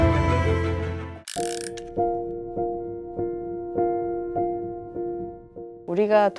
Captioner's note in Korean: 다이얼 소리